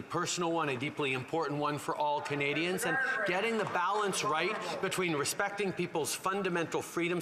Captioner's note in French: voix de l'interprète